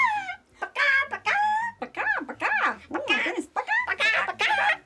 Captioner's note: both clucking